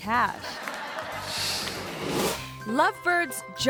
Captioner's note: audience laughs